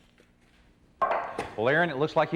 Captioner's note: stones clanking